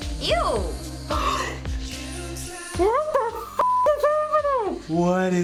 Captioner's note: gasps